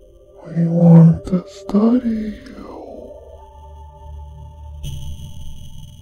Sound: whispering

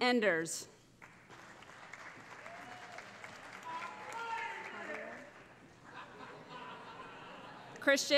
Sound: cheering, laughter

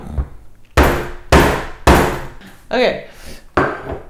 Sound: pounding

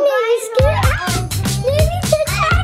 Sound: child screams

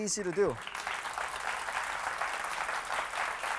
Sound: clapping

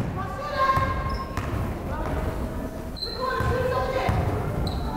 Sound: fan shouting

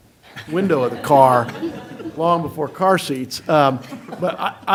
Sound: laughter

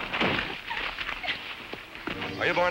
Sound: Ethel whimpers

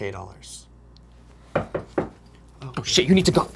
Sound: knocking at door

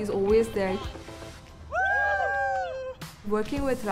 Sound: group cheers

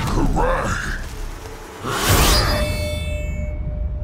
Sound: grunting

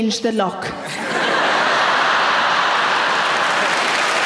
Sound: audience laughing; audience clapping

